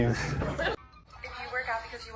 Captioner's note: laughing